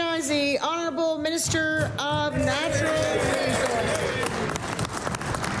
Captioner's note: applause